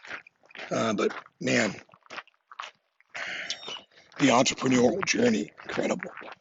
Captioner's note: laughs